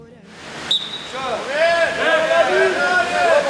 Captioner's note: group yelling